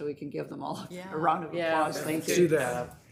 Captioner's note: panelists agreeing